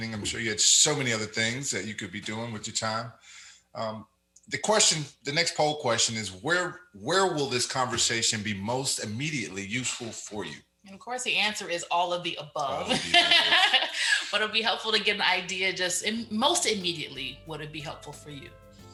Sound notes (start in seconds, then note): 12.6 laughs; 12.9 mumbles